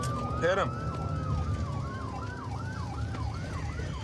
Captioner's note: sirens wailing